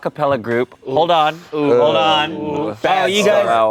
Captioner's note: everyone groans